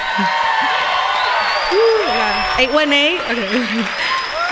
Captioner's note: applause